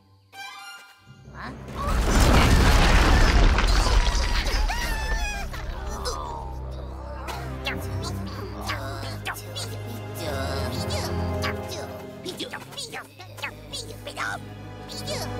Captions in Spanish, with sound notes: [quejidos] Bidoof. Bidoof. Bidoof. Bidoof. Bidoof.